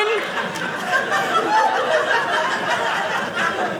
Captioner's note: audience laughing